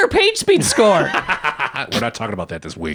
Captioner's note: laughing